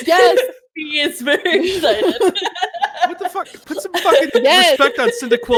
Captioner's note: laughs